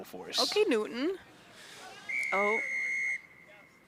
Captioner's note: whistle blows